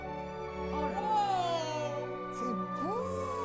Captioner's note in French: musique joyeuse; exclamations de surprise